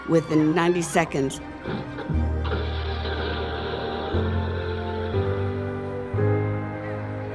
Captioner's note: mechanism hissing